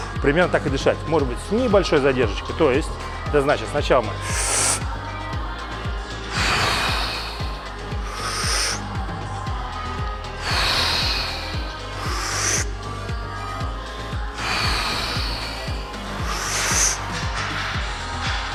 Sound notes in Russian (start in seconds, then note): 6.3 Выдох; 10.4 Выдох; 14.3 Выдох